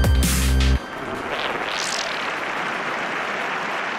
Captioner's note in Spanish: Aplausos